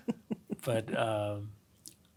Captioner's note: laugh